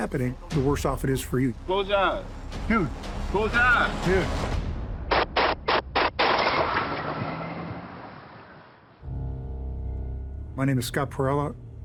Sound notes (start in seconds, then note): 5.2 bullets firing; 6.2 car driving away